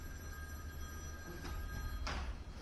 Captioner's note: phone rings